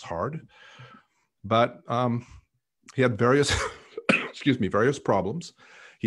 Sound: coughing

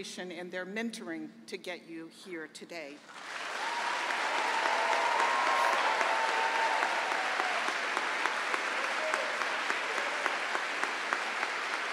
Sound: cheering and applause

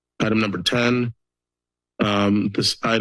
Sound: pause

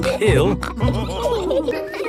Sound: all laughing

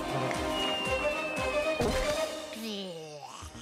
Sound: gulping; groaning

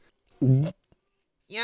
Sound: gulp

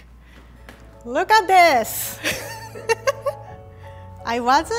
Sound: laughing

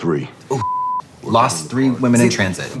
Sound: beep

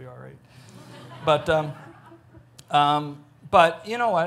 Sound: audience laughs

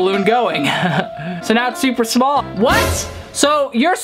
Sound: laughs

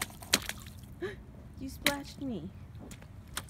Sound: gasp

